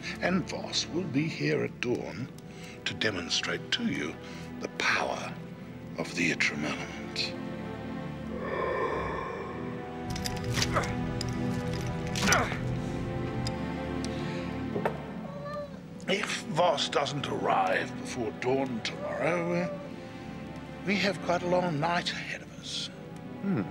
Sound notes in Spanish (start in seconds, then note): 8.2 viento silbando; 10.9 William gruñendo